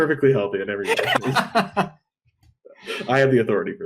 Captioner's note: laughs